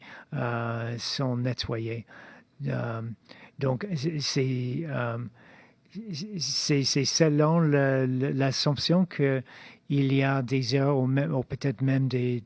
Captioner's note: speaking in French